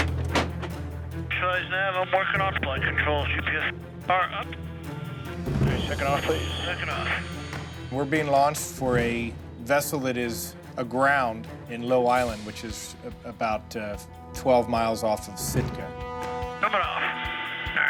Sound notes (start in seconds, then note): 1.7 radio chatter; 8.6 man On Radio